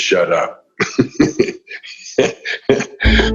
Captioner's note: laughing; upbeat music